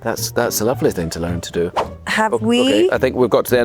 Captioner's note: air whooshing